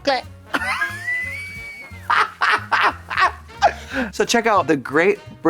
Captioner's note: Trixie tootles